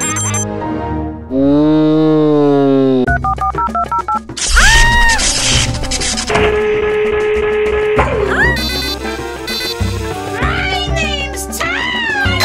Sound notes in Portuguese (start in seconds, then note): 3.1 Sons de discagem telefônica